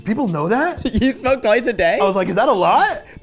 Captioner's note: chuckling